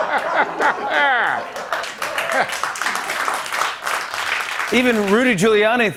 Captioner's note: laughter, applause